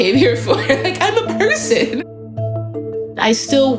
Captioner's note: laughing